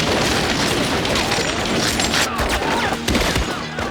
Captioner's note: rapid gunfire